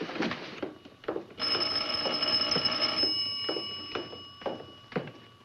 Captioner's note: telephone ringing